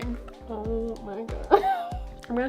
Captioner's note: laugh